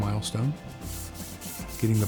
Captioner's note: sanding